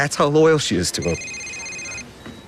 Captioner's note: cellphone ringing